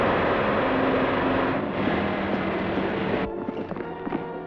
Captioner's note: vibration buzzes